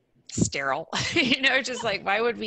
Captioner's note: laughing